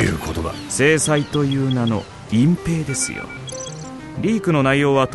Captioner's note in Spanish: sonidos del dispositivo